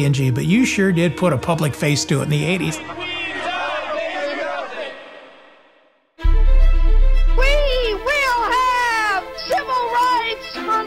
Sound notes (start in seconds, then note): 2.7 protestors chanting; 6.2 dramatic music